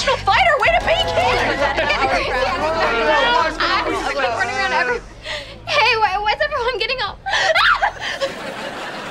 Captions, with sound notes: Way to be, kid. [overlapping chatter] Hey, why's everyone getting all- [shrieking]